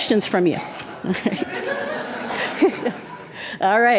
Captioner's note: audience laughing